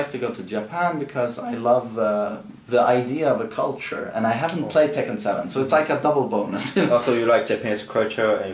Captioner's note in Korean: 웃음